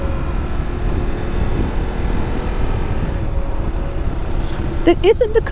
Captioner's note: engine rumbling